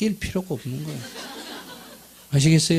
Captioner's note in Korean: 청중웃음